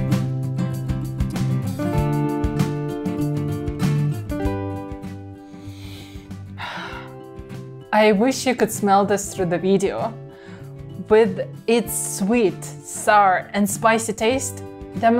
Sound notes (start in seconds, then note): 5.3 inhales; 5.4 exhales